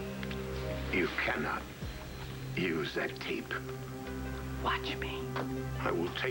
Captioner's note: tape stops